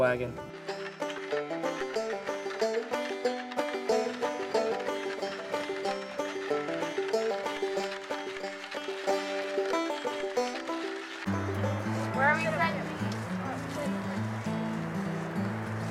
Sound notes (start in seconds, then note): 0.0 banjo music; 0.0 sound of wagon wheels; 11.3 soldiers talking